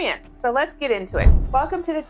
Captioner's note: whooshing